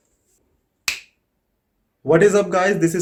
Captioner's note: snapping the fingers